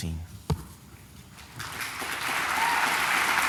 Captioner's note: applause